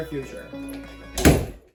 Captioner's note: closes Door